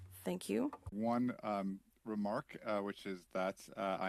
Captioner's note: speaking French